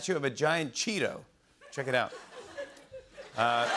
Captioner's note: laughter